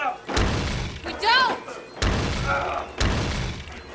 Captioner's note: thunderous crashes